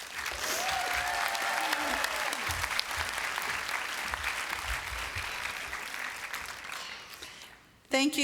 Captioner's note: applause